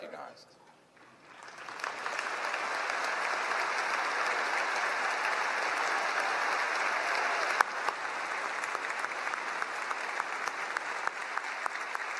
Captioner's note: applause